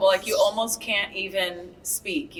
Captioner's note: group laughs